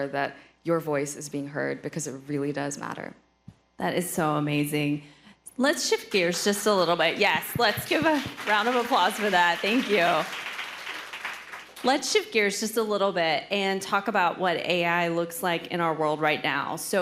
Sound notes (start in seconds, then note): 10.4 audience applauding